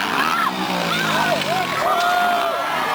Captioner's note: crowd screams